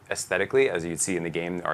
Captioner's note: none